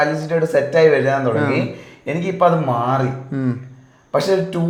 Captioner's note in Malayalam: തൊണ്ട ശരിയാക്കുന്നു